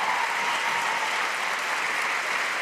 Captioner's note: cheers and applause